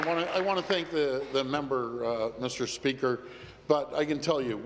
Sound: applause

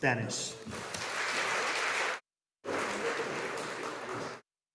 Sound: audience applauding

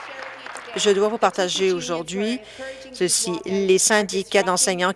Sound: applause

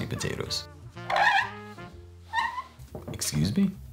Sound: rubber squeaking

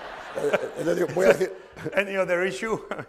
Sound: laughter; speaking spanish

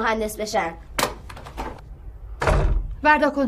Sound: door closing; thud

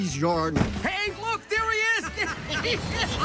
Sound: car

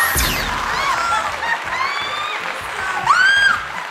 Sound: applauding

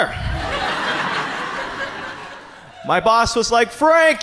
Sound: audience laughs

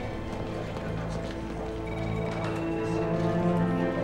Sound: phone ringing

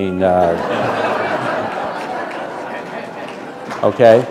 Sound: laughter

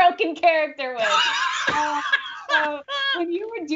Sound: Brennan laughing

